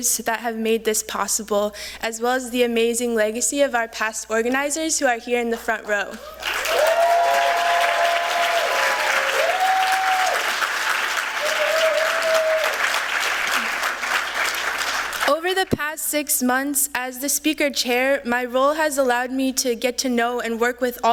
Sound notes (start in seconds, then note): 6.3 applause